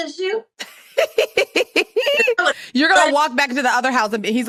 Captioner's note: laughs